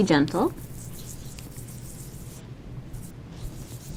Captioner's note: scrubbing